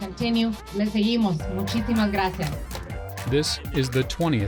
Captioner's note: speaks foreign language